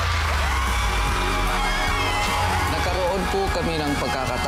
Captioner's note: screaming